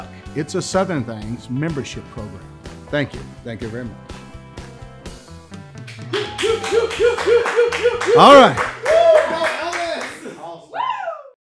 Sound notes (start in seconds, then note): 5.9 people cheering